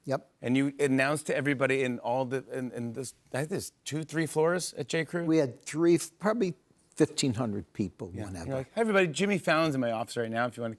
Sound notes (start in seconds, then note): none